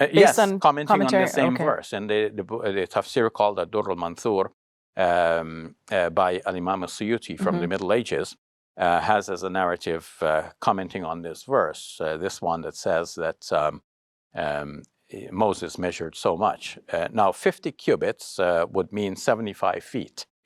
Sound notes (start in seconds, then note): 4.6 foreign language